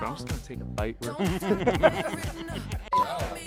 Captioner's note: laughing